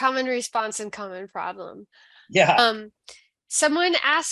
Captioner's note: chuckling